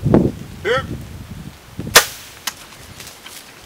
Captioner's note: sound of bowshot; sound of running